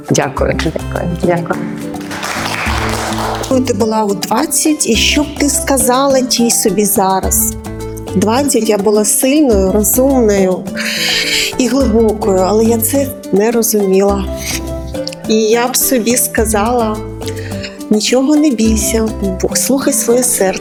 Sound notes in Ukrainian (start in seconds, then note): 1.9 оплески; 11.3 хекання